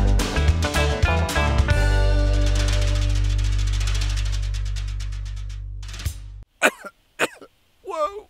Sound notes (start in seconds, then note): 7.2 coughs